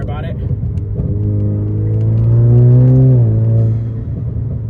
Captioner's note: engine revving